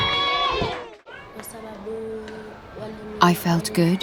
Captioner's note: speaking in non-English